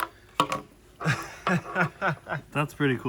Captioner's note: laughs